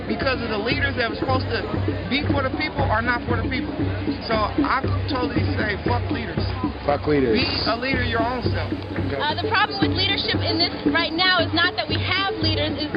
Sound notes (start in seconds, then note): 6.7 voiceover